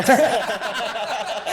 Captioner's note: laughing